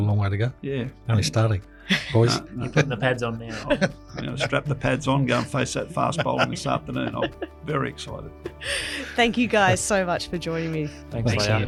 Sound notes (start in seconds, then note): 3.7 laughs